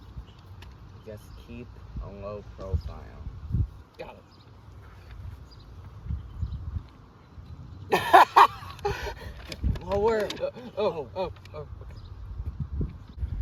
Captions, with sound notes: (Whispering) Just keep a low profile. Got it. (Jones laughs loudly) Lower! Lower!